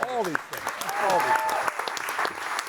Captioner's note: audience applauding